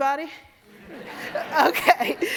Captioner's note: audience laugh